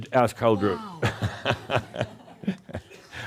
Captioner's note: laugh